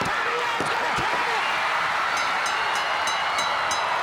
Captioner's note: bell ringing; crowd cheering